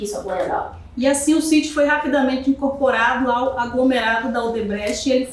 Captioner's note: speaking portuguese